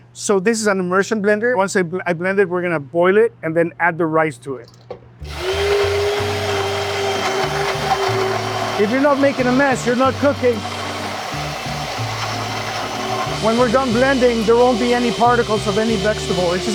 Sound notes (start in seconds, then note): 5.6 blender stirring; 11.4 blender stirring